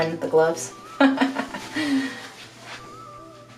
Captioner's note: laughing